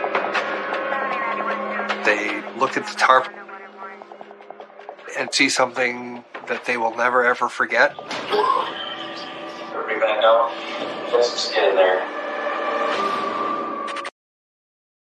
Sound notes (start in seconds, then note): 9.6 person coughs; 14.2 dramatic musical flourish